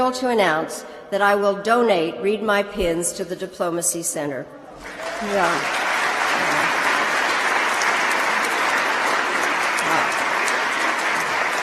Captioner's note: applause